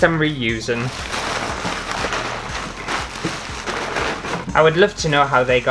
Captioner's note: crunching Paper